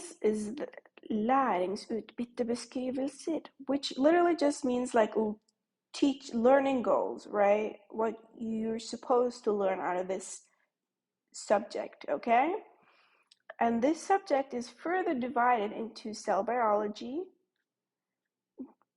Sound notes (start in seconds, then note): 1.8 speaks norwegian